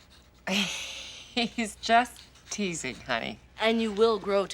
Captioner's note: chuckling